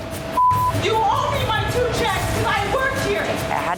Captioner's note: beep